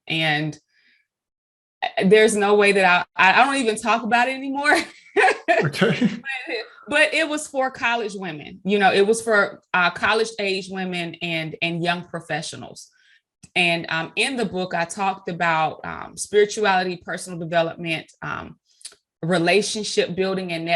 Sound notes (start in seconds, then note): 5.1 chuckling